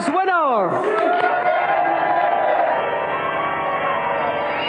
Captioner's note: audience Cheering